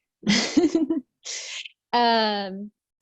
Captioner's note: giggles